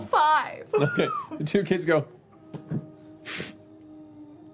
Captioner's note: scoffs